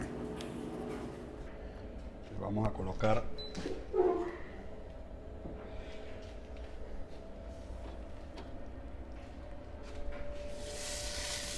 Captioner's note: sizzling sound